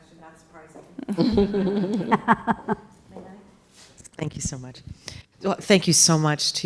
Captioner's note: laugh